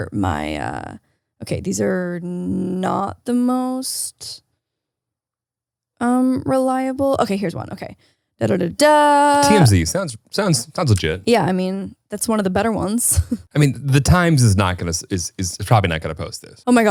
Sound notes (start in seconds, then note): 13.6 chuckles